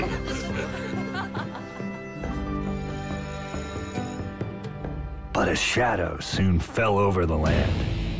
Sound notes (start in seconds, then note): 0.0 joyful Laughter; 2.3 school Bell Ringing